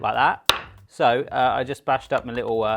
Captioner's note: rolling pin hitting counter